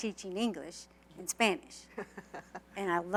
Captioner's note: laughter